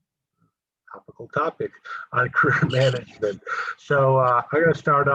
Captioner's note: laugh